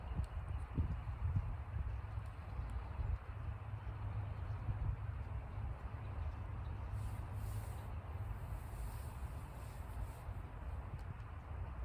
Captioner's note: wind